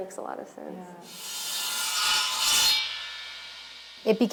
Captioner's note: buzzing